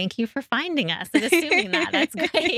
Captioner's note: laughing